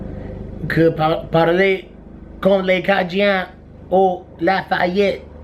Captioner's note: in bad Cajun accent